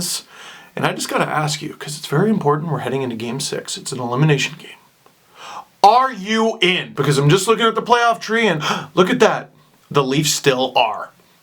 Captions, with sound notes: And I just got to ask, you because it's very important. We're heading into game six, it's an elimination game, Are you in? Because I'm just looking at the playoff tree and [gasp] look at that the Leafs still are.